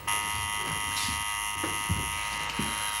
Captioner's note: buzzing continues